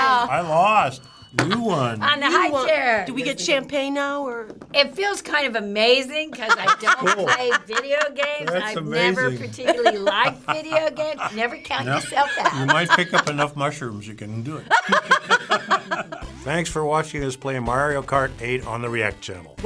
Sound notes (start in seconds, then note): 14.6 laughter